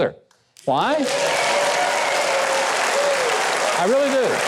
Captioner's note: audience cheering